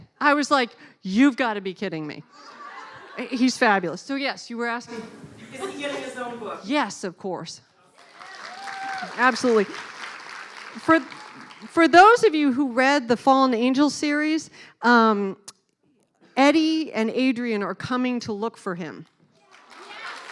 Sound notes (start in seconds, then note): 9.9 clapping